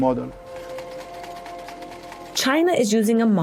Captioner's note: mechanical sound